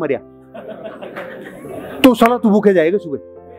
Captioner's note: laughing